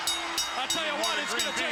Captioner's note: bell ringing